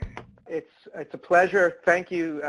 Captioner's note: voiceover